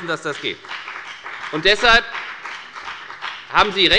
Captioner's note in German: Beifall bei der FDP